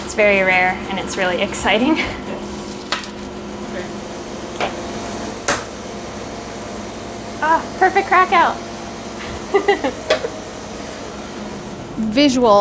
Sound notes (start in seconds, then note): 5.4 tray tapping; 9.2 laughing